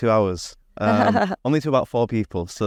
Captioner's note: chuckling